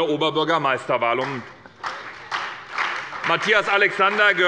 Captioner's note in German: Beifall bei der SPD